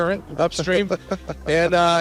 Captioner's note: laughs